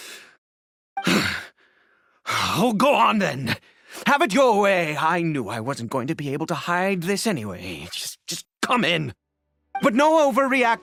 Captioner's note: sigh